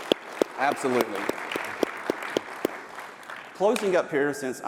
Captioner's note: applause